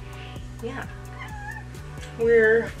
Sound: Jack meows

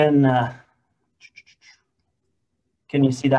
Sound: tsking

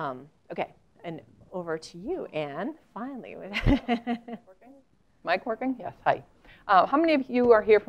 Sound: laugh

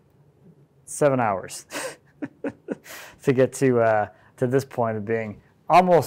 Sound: laughing

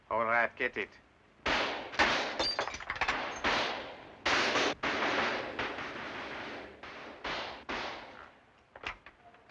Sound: intense gunfire

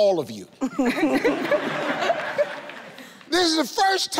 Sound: all laughing

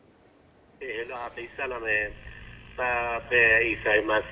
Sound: speaking in foreign language

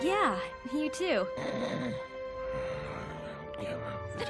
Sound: snoring

